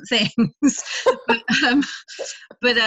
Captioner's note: both laughing